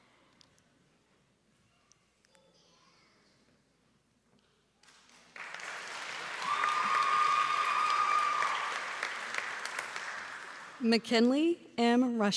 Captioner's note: applause